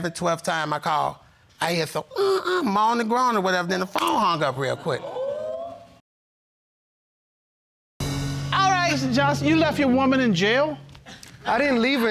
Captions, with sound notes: Then like the 11th, 12th time I called, I hear some, "Uh, uh", moaning and groaning and whatever. And then the phone hung up real quick. (AUDIENCE EXCLAIMING) All right, Mr. Johnson, you left your woman in jail?